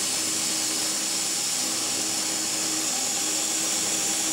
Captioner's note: saw whirring